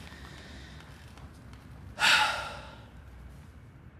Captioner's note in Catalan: sospira